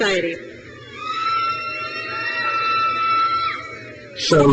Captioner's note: crowd cheers